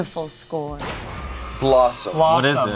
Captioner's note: confetti pops